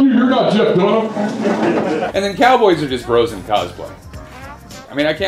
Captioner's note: laughter